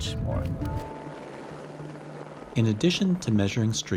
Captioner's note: helicopter noise